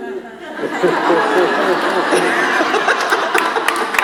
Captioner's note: audience laughs